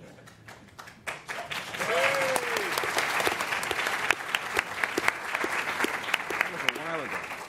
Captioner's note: applause